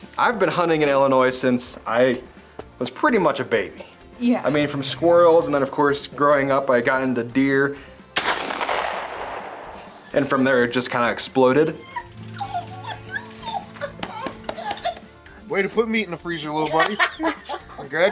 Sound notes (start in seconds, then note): 8.1 shotgun fires; 11.7 grandma laughing